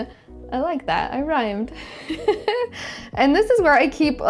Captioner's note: laughs